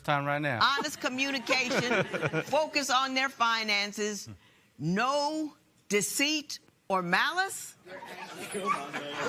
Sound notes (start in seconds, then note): 0.7 laughter